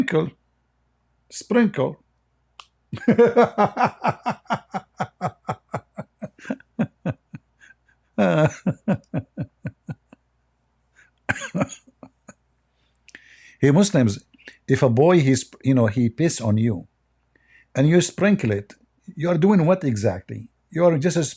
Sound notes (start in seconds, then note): 2.9 Ketawa